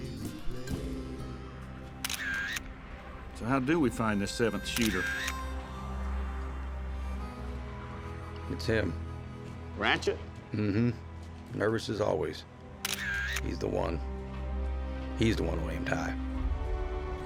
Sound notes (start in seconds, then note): 2.0 camera shutter; 4.7 camera click sound; 12.8 camera shutter